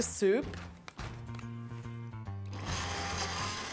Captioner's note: buzzing